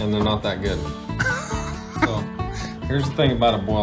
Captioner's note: laughs